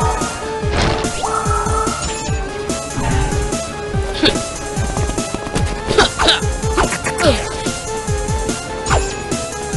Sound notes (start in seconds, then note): 3.7 grunting